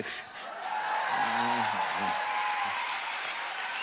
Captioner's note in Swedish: Publiken jublar uppskattande